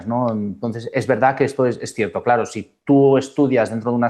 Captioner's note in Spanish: none